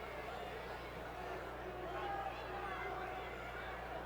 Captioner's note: crowd chattering